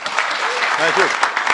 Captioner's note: applause